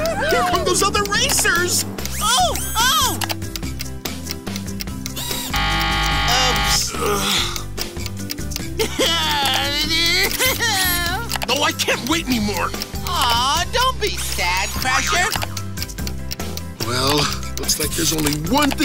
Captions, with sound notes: Here come those other racers! Oh, oh! - [buzzing] - Oops. [sighs] [laughing] Oh, I can't wait anymore! Oh, don't be sad, Crusher. Well, looks like there's only one thing